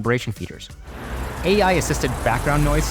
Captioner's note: engine droning